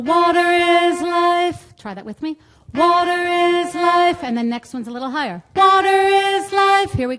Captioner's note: audience joining in